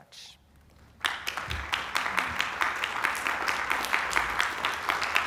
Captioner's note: applause